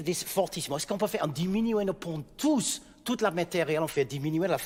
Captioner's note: speaking in French